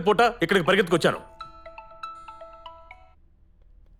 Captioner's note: mobile phone rings